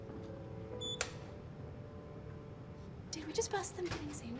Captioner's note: door beeps